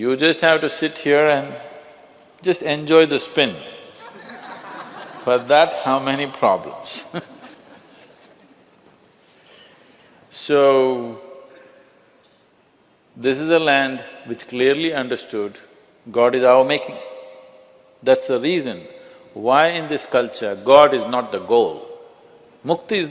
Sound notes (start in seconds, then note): 4.0 laughter; 6.9 laughs